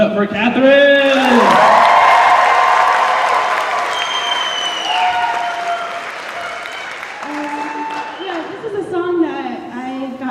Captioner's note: cheers